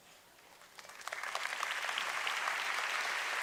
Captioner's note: applause